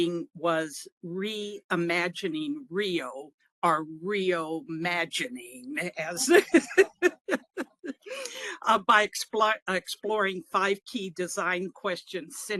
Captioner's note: laughing